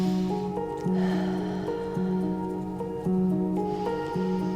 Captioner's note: breaths in deeply; breaths out; breaths in deeply